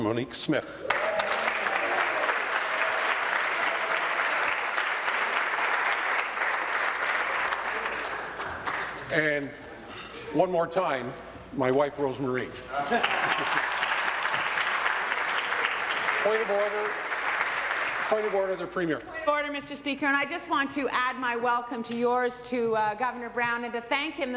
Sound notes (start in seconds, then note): 3.8 applause; 15.5 applause